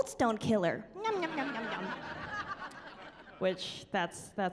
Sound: laughing

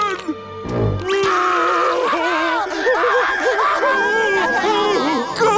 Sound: crying

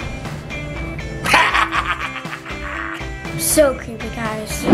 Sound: laughing hysterically

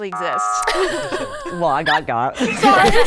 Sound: everybody chuckles

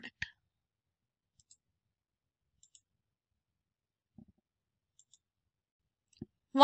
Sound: mouse clicking

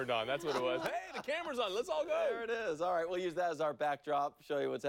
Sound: laughter

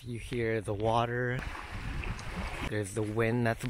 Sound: sounds of waves crashing

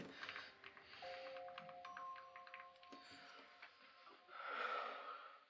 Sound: cell buttons clicking

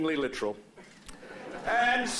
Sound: laughter

